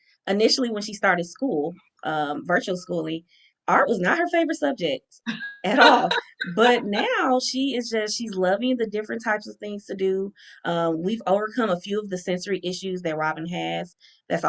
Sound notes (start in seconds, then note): 5.7 laughing